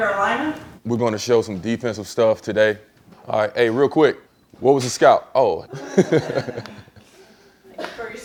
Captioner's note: laughter